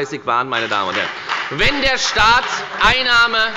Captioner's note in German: Beifall bei der FDP